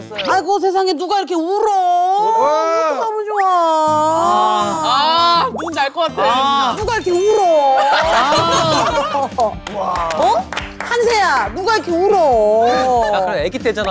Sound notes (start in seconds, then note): 7.8 burst out in laughter